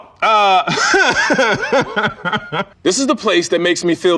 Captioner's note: laughs